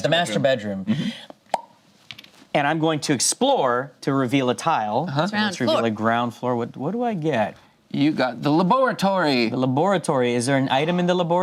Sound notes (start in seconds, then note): 1.5 pops lips